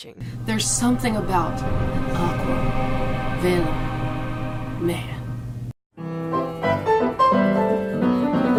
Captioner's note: in Dramatic voice